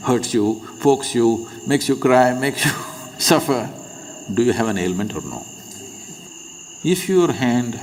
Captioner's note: laughs